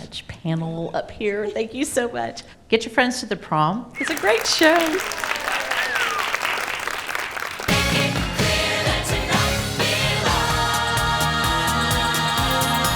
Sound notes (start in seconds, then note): 6.1 crowd claps; 7.4 upbeat lively music